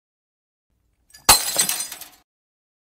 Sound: glass Break!

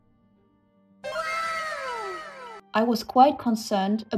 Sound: wooow sfx

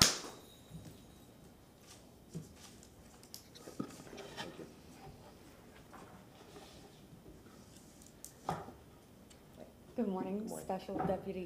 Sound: applause

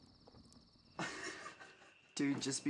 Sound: laughter

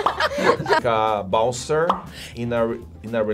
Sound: laughs; bubble pops

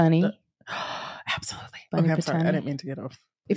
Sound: gasp

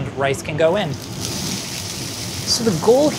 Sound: food sizzling

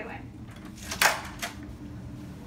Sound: door opening

